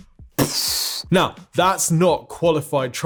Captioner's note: mimics explosion booming